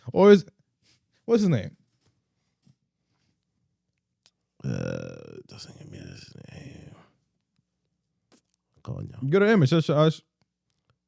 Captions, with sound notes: Or is-- what's his name? (Speaking Spanish) Go to image.